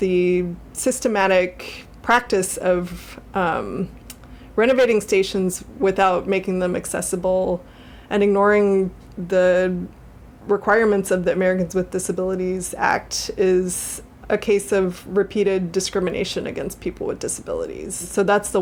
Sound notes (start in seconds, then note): none